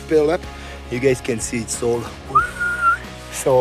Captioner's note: whistling